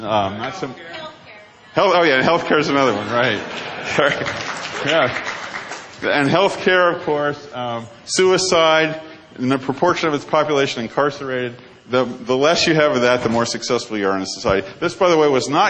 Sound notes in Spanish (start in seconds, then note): 3.3 Risas; 3.3 Aplausos